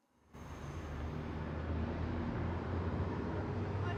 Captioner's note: traffic humming